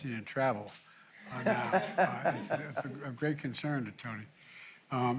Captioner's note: laughter